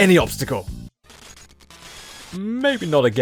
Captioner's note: GBA crash sound